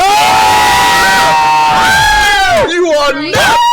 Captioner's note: yelling